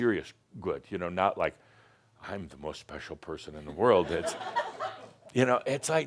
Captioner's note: some chuckles